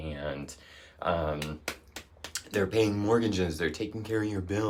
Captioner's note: claps hands